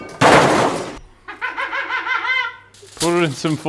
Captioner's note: laughing